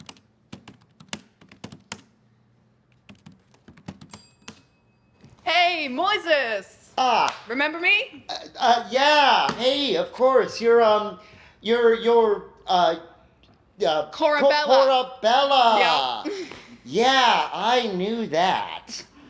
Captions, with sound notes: (keyboard clicking) (computer pings) - Hey, Moises. - Ah! - Remember me? - Yeah. Hey, of course. You're, uh, you're, you're, uh- - Corabella. - Corabella! - Yep. - Yeah, I knew that.